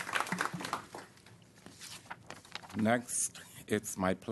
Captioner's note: applause